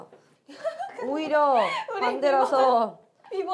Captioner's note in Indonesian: Cekikikan